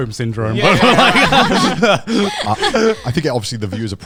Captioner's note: all laughing